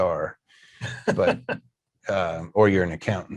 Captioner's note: laughs